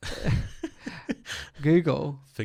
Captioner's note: laughing